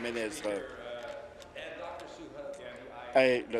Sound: applause

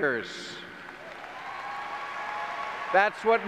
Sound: clapping and cheering

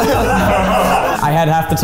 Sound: all laugh

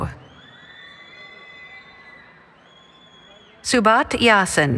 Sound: cheering

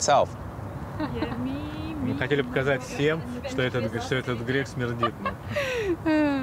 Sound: speaking in foreign language; laughing

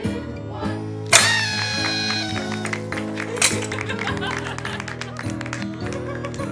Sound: party horn, laughter, applause

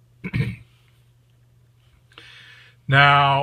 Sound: clears throats

